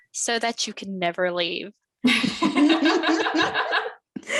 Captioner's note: laughter